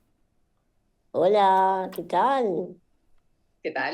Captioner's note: in spanish